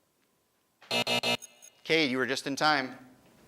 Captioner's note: buzzing